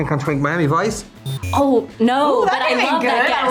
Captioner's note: buzzer buzzing